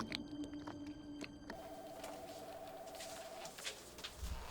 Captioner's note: phone ringing